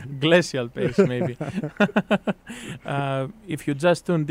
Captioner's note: both laugh